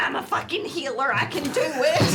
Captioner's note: laughter